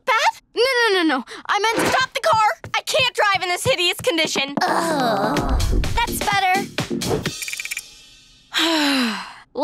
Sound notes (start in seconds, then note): 4.6 groaning; 8.6 sighing